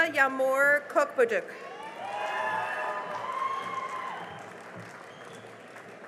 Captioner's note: cheering and applause